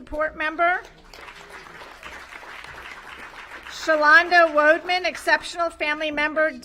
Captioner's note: applause